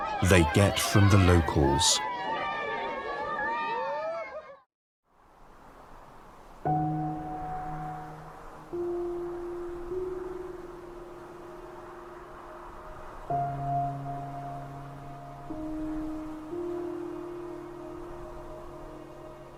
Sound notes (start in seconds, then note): 2.6 children cheering; 6.9 gentle music; 14.6 gentle music continues